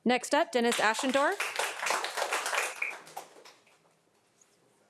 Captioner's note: audience applauding